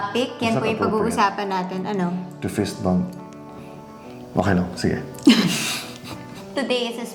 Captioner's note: laughs